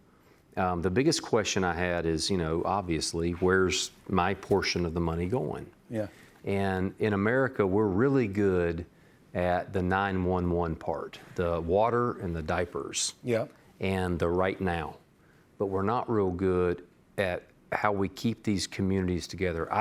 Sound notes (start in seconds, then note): none